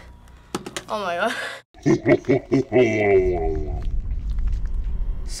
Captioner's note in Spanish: Risa siniestra de profundidad